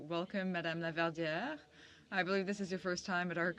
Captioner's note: speaking French